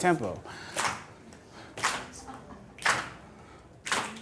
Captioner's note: clapping